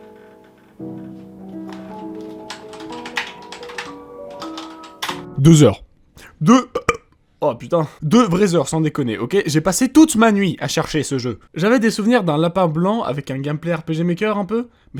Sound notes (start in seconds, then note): 6.2 burp